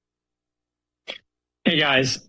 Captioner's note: silence